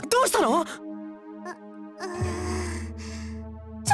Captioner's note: groggy groan